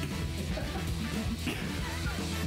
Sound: laughter

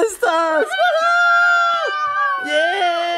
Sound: cheering

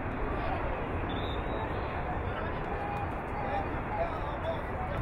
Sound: whistle blowing

